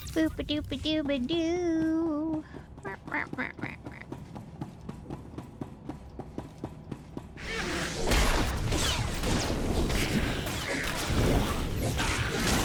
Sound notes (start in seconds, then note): 2.7 mimicking noises; 7.8 gunshot